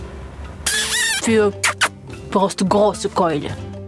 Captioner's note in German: Kussschmatzen